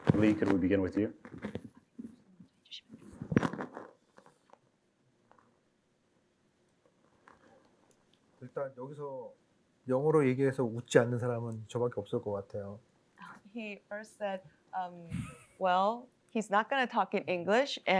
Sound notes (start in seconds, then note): 3.4 whispering; 8.4 speaking korean